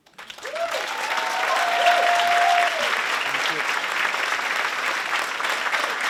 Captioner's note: applause